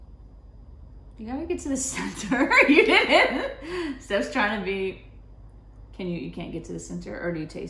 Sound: laughs

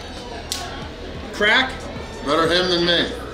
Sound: crab cracking

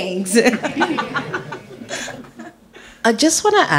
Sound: panellists laugh

